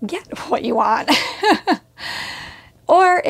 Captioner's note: laughs